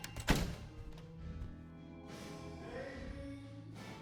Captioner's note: door clatters